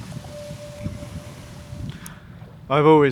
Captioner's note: water splashing; trees rustling; wind blowing